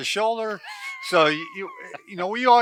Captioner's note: laughing